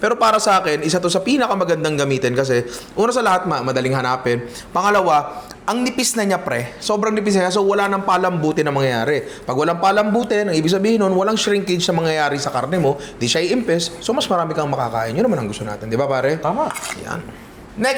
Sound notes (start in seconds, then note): none